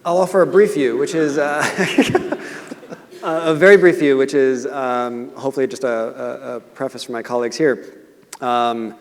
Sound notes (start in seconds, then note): 2.1 laughing